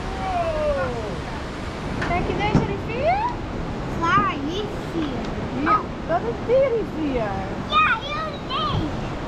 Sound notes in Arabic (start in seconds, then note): 2.4 يتحدثان الهولندية